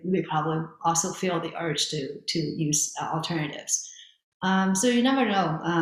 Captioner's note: none